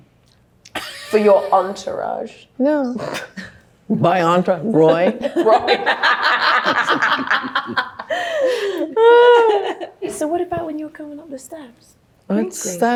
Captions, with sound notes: [Anne laughing] - For your entourage. - No. My entourage? Roy? - Roy. [everyone laughing] - So what about when you were coming up the steps?